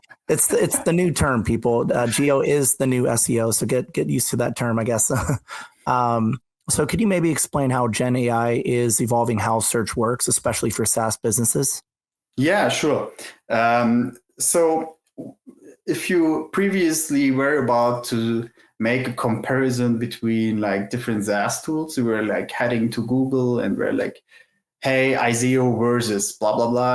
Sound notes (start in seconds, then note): 0.3 laughs; 5.4 laughs